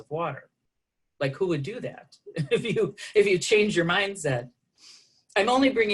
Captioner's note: laughter